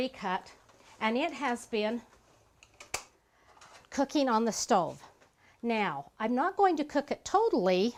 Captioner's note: click